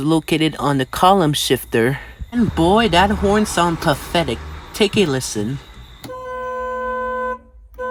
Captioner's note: honks Horn